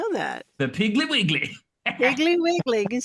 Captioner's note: laughs